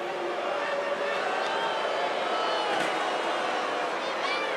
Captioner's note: crowd booing